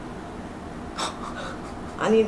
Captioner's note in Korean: 실소